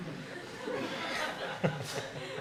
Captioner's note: audience laughter